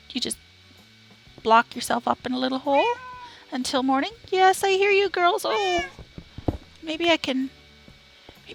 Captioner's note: cats meowing